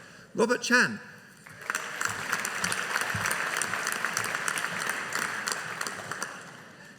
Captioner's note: audience applauding